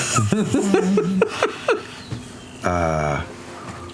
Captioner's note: laughter